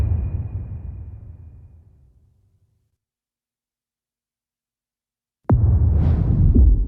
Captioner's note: dramatic sound